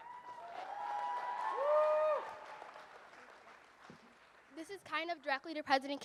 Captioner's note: audience cheers and applauds